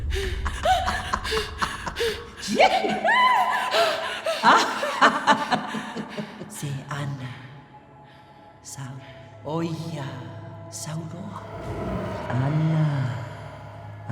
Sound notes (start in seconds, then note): 0.1 female cackles, whoops; 0.1 gasps; 3.0 screams; 4.2 distorted female laughter; 8.6 speaks samoan